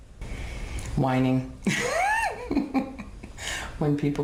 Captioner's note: laughs